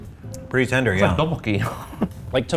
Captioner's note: chuckles